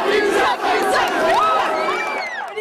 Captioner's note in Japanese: 悲鳴